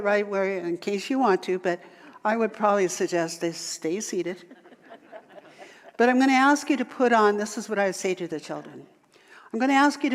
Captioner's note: audience laughter